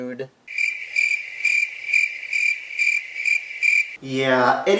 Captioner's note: cricket sound effect